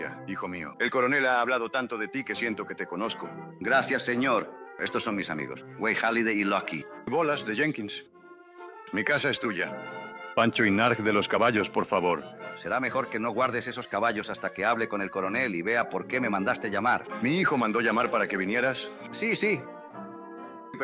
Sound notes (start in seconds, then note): 7.7 in spanish; 10.5 in spanish